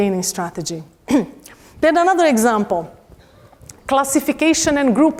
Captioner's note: cough